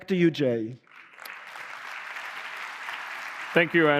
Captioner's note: applause